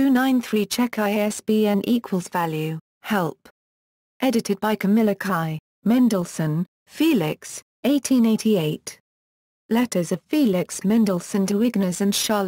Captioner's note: German